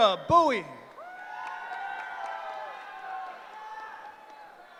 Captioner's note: cheering